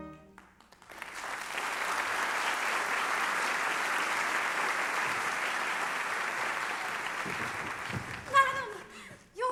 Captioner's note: applause